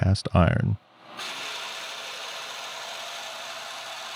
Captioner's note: tool humming